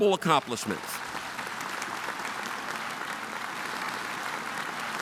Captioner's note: audience applauding